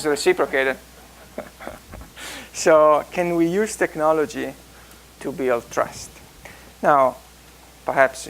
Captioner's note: laugh